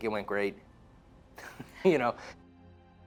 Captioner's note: man chuckling